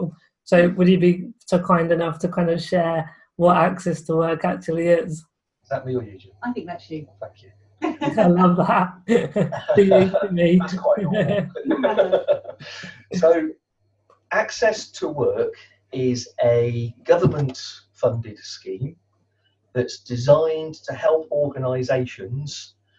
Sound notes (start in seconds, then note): 10.9 laughter